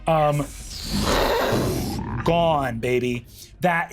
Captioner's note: imitates air whooshing